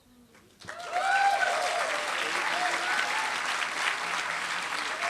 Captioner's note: applause